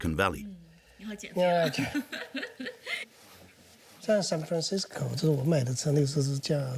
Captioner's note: both speaking foreign language